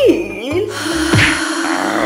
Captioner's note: dhishoom